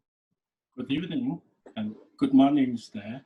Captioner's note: foreign language